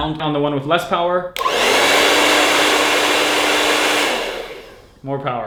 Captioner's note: blow dryer blowing